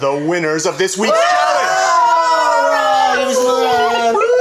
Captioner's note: cheering